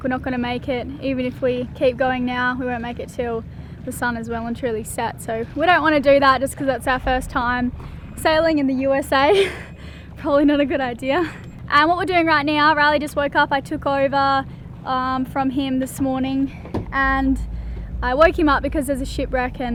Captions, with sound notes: We're not gonna make it even if we keep going now, we won't make it until the sun is well and truly set so we don't wanna do that since its out first time sailing in the USA. (giggles) Probably not a good idea. And what we're doing right now, Riley just woke up, I took over from him this morning and I woke him up because there's a shipwreck